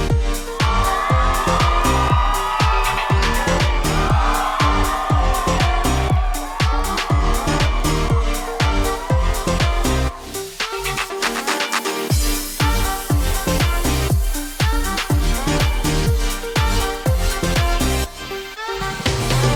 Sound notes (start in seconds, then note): 1.2 crowd cheering